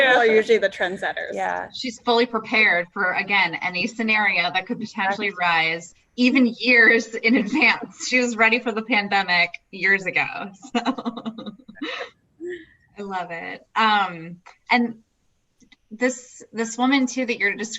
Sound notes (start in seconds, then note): 10.7 laughs